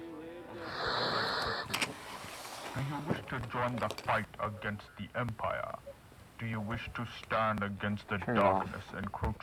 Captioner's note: radio static